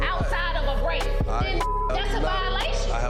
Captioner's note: beep